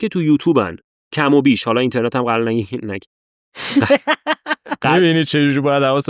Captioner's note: laughs